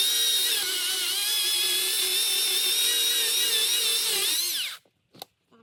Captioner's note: sawing sounds